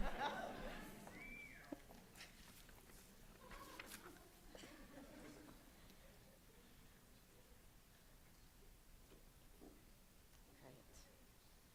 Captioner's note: laughter